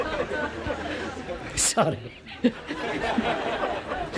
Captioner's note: laughter